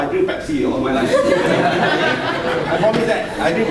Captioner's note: audience laughing